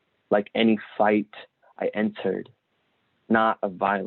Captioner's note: none